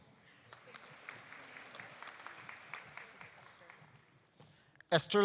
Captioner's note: audience applauding